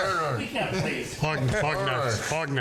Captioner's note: all laughing